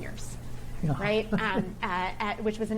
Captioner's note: chuckles